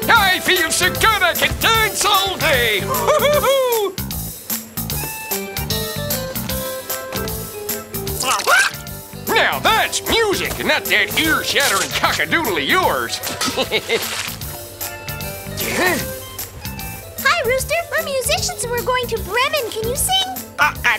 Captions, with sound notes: I feel so good, I could dance all day! Hoo hoo hoo! (chicken squawks) Now that's music! Not that ear shattering cock-a-doodle of yours! (chuckles) Huh? - Hi rooster, we're musicians and we're going to Bremen. Can you sing?